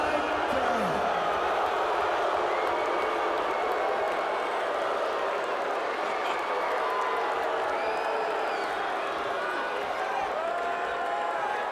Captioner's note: crowd booing louder